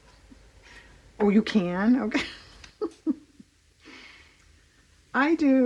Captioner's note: laughs